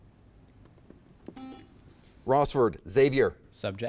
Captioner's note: buzzer chimes